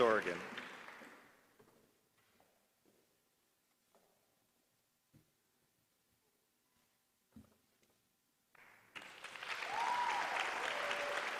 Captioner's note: applause